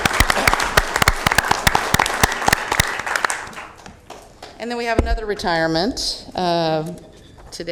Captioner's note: applause